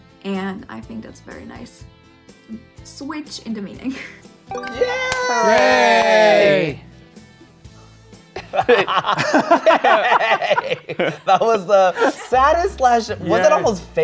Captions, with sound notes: and I think that's a very nice... switch in the meaning. - Yay! - Hooray. (all laugh) - That was the saddest, slash... was that almost fake yay?